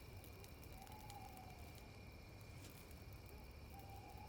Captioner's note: fire crackling; owl hooting